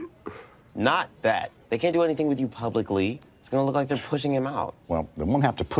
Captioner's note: burps